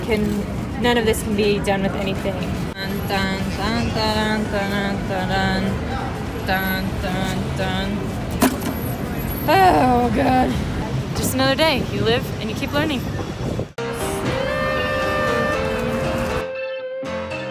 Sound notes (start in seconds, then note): 2.7 humming to song; 8.3 trash smacks against bottom of the garbage can; 13.8 jazz music